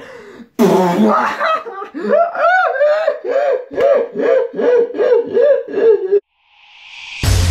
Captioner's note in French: rire